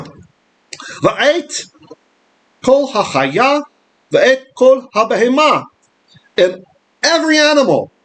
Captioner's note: Hebrew